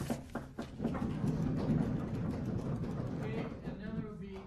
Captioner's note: applause